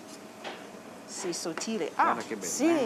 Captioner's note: speaking Italian